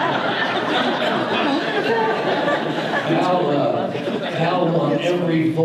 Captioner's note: audience laughter